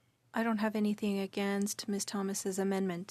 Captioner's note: speaking French